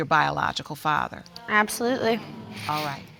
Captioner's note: audience muttering